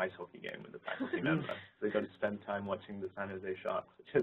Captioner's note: laugh